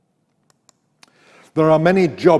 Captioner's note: mouse clicks